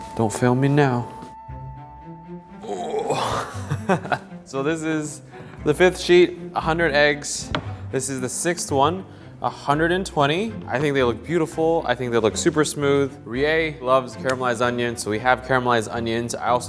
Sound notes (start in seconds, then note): 2.6 grunts; 2.6 laughs